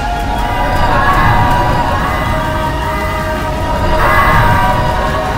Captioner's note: Pepsiman roars